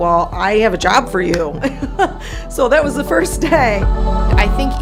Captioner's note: laughter